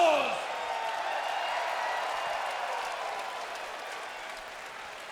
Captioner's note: crowd cheers